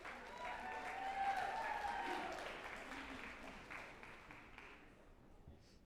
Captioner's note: group applauding and cheering